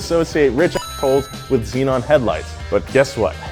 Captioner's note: coins clinking